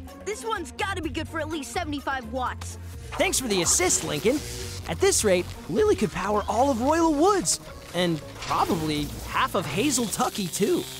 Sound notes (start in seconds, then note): none